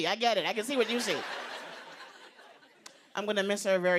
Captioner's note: laughter